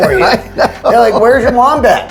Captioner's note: chuckles